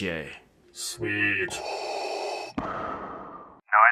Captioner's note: breath